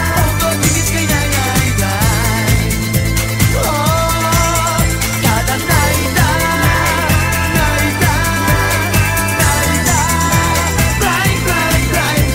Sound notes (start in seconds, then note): 5.8 cried